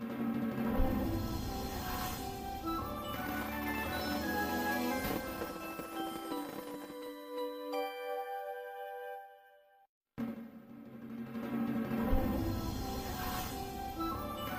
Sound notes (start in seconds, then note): 0.6 wondrous music playing; 3.4 fireworks exploding as wondrous music finishes; 12.0 wondrous music plays; 14.3 fireworks exploding as wondrous music finishes